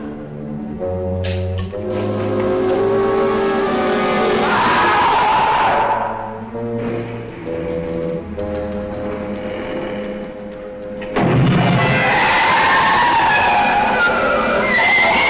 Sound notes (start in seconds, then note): 4.4 creature screeching; 11.6 creature screeching